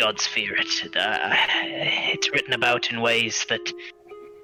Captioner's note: sigh